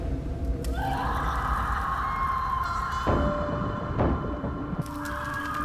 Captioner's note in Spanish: Gritos